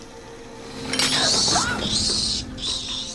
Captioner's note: screeching; gasps